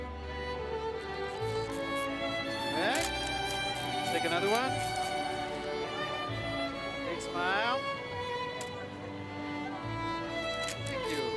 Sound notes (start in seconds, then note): 2.8 camera clicks and winds